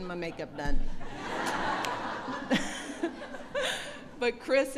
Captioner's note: laughter